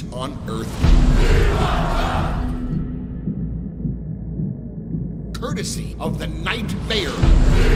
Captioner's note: crowd cheering